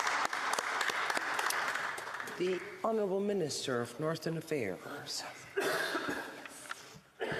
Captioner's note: applause